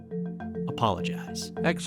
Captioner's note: soundbite of archived recording